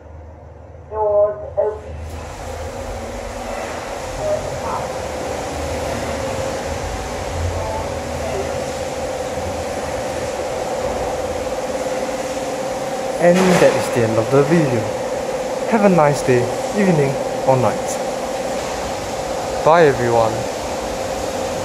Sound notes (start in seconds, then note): 0.2 rain noises